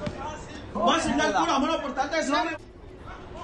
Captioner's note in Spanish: Discusión indistinta